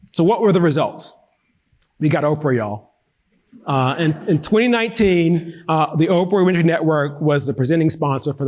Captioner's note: audience laughing